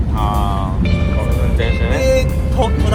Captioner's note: with driving car